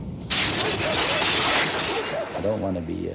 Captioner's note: exploding